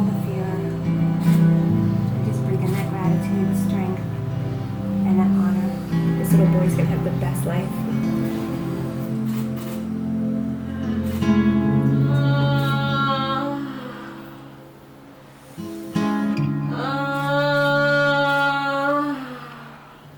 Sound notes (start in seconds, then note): 12.0 moaning; 16.7 moaning